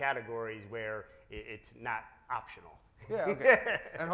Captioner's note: laughs